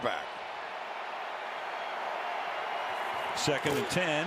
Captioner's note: cheering